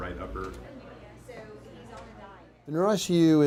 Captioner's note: students chattering